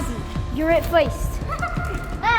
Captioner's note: laughter